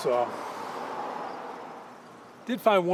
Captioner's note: road din